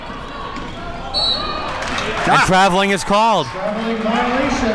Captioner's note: whistle blows